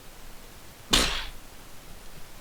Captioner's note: sneeze